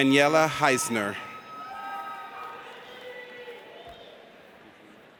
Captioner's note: audience cheers